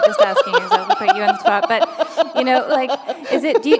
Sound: laughter

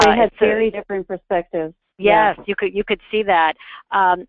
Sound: voiceover

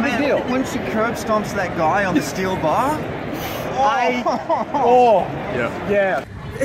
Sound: laughs

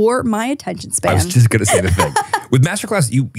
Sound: laughs

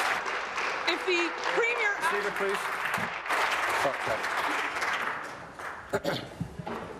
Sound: applause

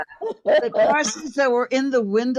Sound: all laughing

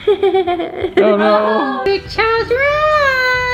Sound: laughs; crowd

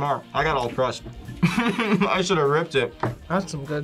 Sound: laughs

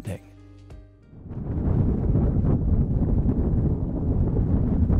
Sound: thunder rumbling

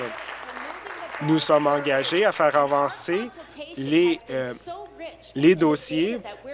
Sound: applause

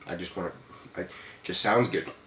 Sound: stammers

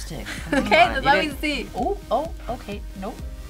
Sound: laughs

